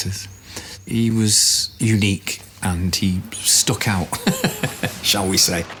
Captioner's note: laughs